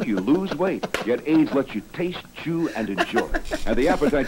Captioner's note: laughs; laughs